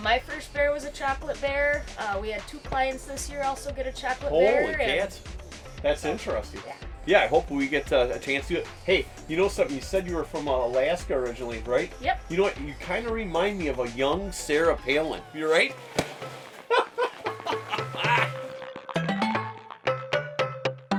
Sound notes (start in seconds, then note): 16.3 claps; 16.5 laughing